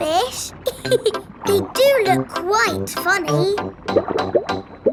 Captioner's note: laughs